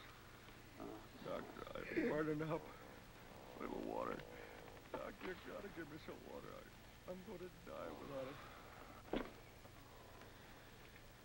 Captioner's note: moaning